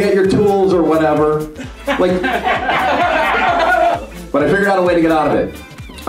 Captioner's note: laughing